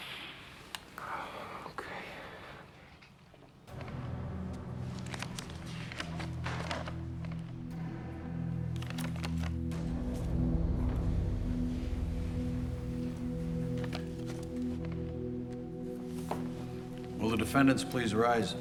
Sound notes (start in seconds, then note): 4.4 shuffles papers